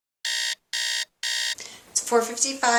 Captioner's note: alarm buzzes